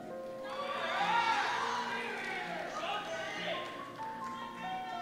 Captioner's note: cheers